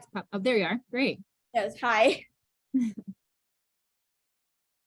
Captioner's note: laughs